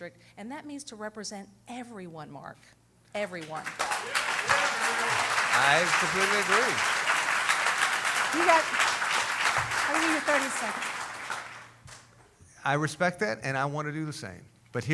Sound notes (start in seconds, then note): 5.1 cheering